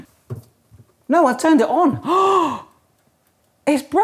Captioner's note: gasps